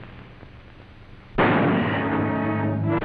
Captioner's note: gun shot